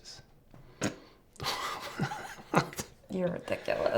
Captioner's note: both chuckle